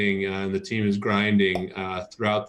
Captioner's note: popping sound